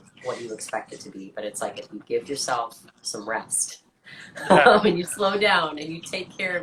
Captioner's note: laughs